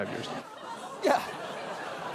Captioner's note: audience laughs